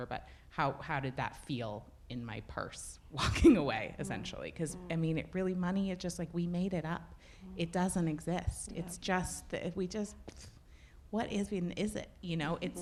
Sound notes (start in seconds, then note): 9.9 blows raspberries